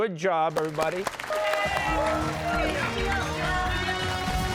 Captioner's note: cheers and applause